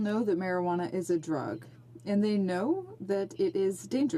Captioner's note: speaking in French